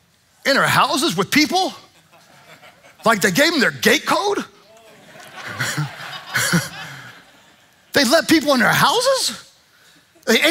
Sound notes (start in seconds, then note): 4.6 congregation laughing